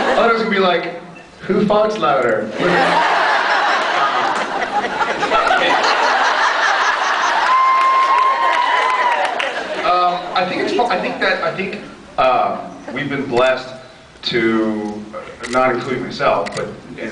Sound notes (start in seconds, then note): 2.6 laughs; 7.3 cheers, applauds